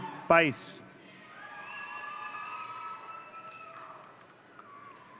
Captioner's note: audience cheering